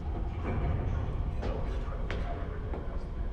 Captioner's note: indistinct chatter